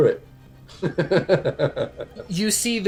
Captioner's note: laughter